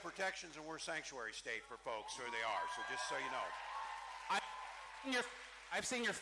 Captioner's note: cheering